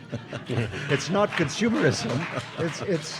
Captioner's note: audience laughing